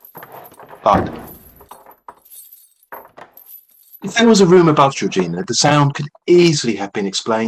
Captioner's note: sound effect: dragging, footsteps, thud